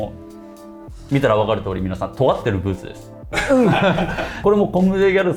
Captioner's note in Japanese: 笑い